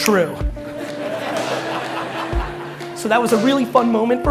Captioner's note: crowd laughing